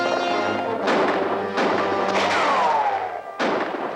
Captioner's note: tense music; guns firing